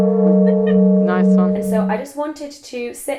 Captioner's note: voiceover